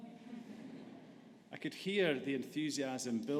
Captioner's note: audience laughs